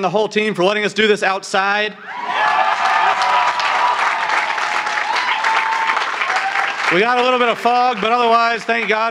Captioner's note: applause